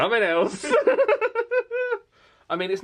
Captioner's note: laughs